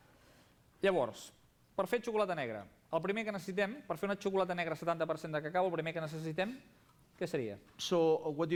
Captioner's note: non-english speech